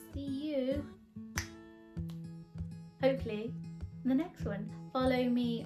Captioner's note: clicks fingers